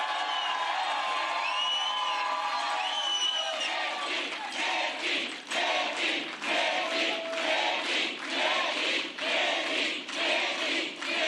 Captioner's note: cheers and applause